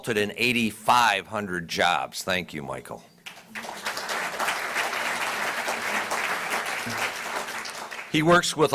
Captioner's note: applause